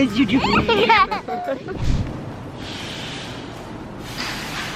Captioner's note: laughing